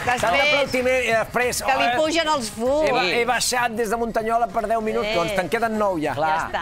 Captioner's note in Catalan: aplaudiments